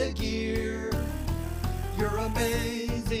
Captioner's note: truck buzzing